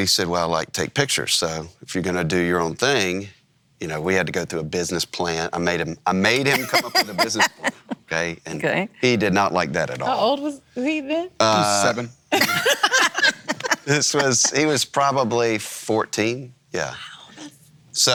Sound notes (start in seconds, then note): 12.4 all laugh